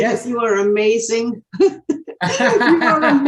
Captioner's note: both laughing